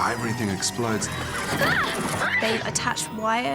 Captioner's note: hermione yelping